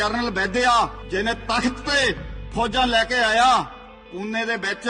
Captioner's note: speaking in Punjabi